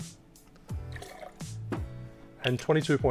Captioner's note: liquid sloshing